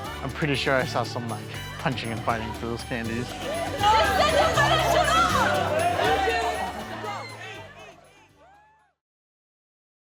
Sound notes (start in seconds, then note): 3.1 shouting